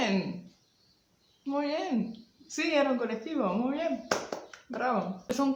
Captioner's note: applauds